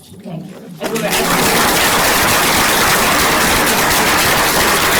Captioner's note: applause